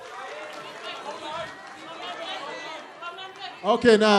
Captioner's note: applause